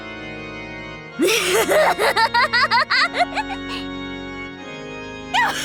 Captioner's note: giggle; cackle